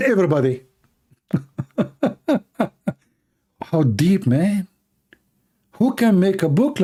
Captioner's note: Ketawa